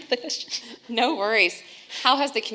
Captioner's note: laughs